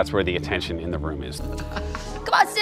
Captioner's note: laughs